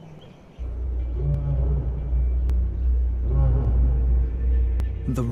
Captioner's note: roar echoing